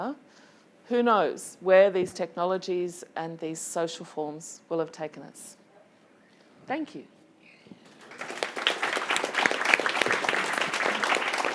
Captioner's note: applause